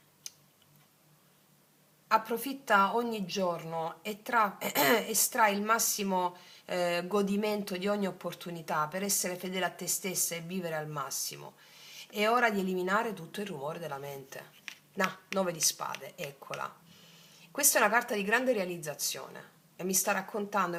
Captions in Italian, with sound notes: approfitta ogni giorno e tra estrai [schiarire la voce] il massimo eh godimento di ogni opportunità per essere fedele a te stessa e vivere al massimo. È ora di eliminare tutto il rumore della mente. Nah, nove di spade. Eccola. Questa è una carta di grande realizzazione e mi sta raccontando